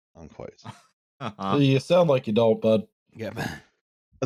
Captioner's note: laughter